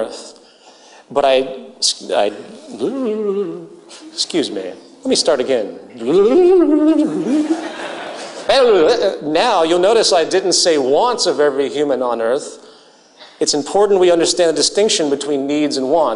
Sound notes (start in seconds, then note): 4.1 imitates VCR rewinding